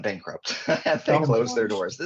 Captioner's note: laughing